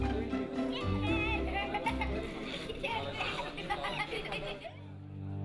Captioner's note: children giggling